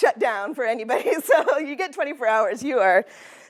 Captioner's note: laughter